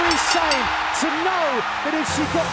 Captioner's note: bell ringing